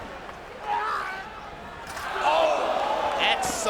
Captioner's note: Tajiri shouts